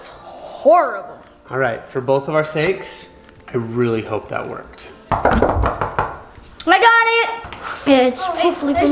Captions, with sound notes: That was horrible! - All right, for both of our sakes, I really hope that worked. (knocking) - I got it. It's hopefully for me.